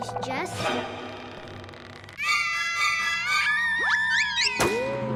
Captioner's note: scary music; Max screams